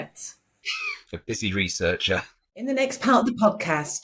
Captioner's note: chuckling